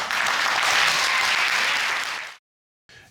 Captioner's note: audience applauds